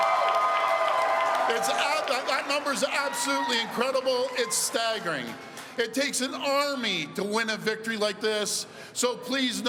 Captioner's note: cheering